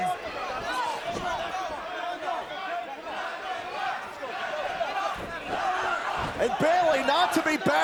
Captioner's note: crowd cheering